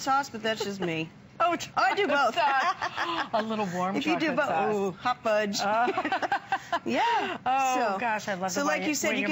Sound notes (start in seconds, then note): 5.8 laughter